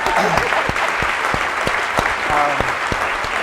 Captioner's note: applauding